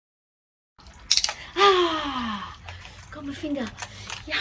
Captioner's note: loud click of buckle